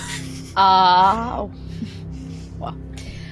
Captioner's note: giggling